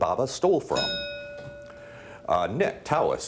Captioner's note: bell dinging